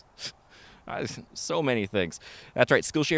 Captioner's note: scoffs